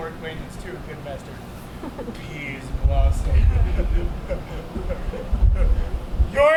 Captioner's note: laughs